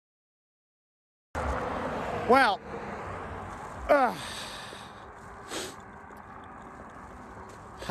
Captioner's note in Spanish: gruñidos